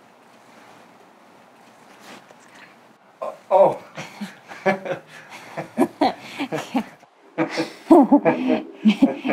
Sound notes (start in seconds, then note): 3.5 chuckles; 4.8 chuckling